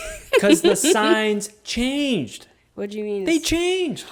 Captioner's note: laughing